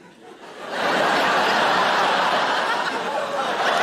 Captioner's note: audience laughing